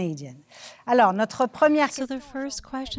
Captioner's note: speaking French